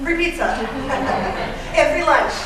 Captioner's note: laughter